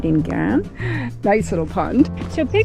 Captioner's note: laughing